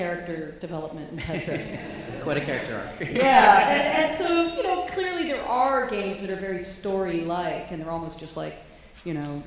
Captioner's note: laughs